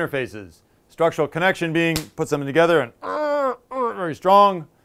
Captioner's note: grunts